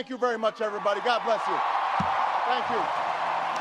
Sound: audience cheers and applauds

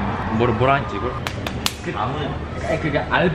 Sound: slap slap slap

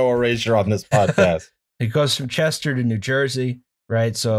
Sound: laughter

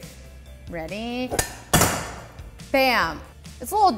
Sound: metal clanking

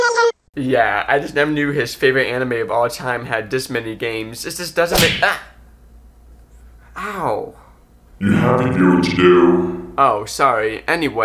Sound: slap

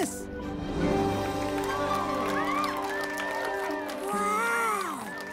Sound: cheers and applause

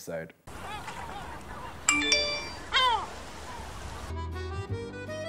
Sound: sea gulls squawk; bell chimes

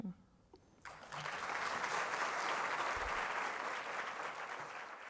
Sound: audience applause

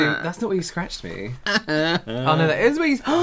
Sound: fake Cry

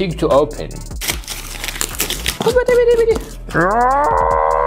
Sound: funny noises

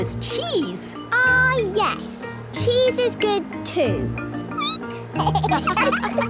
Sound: squeaking; laughter

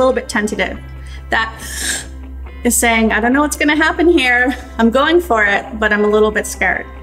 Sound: gasp

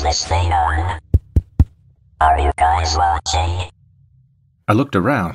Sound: tap tap tap

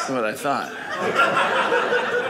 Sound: audience laughing

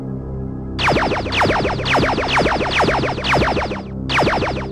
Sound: lasers firing

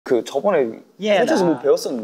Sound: speaking Korean

